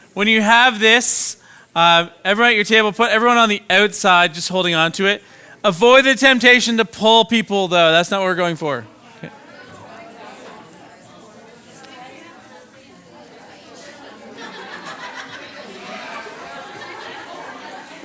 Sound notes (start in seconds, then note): 9.4 participants conversing